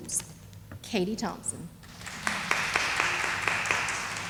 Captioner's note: sound of applause